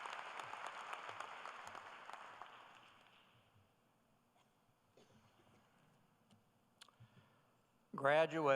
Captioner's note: cheers and applause